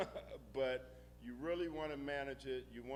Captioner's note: laughing